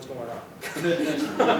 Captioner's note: laughter